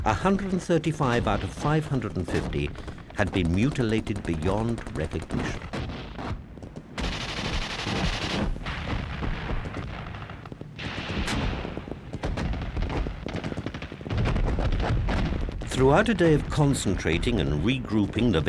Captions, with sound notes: 135 out of 550 had been mutilated beyond recognition. (gunfire) (explosions) Throughout a day of concentrating and regrouping the